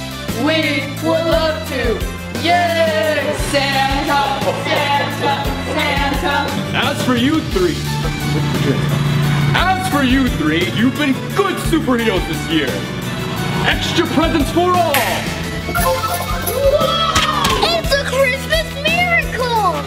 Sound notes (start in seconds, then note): 3.9 Cheering Santa; 14.9 snaps fingers